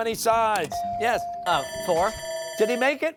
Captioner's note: bell rings